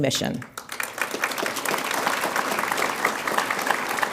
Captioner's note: audience applauds